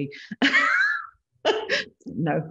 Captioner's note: laughs